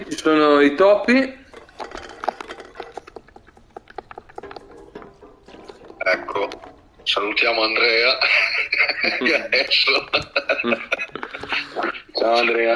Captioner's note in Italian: Risate